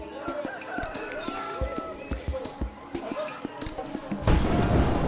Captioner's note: people chattering; rooster crowing; tense music; soldiers yelling